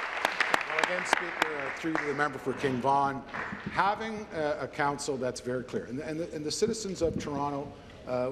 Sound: applause

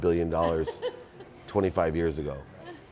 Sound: lady laughs

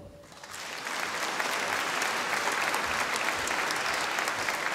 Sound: audience applauding

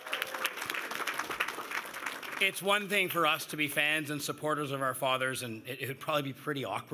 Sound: cheers and Applause

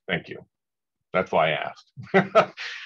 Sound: laughs

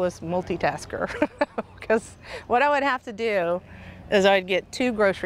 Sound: laughing

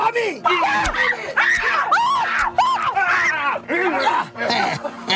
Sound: woman screaming; knives stabbing; Ekong chuckles

